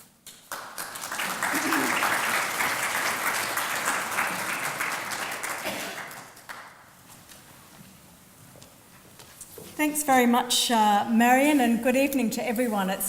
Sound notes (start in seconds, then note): 0.1 applause